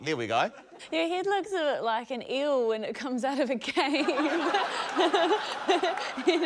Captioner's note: laughter; laughs